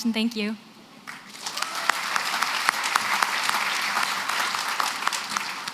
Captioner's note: applause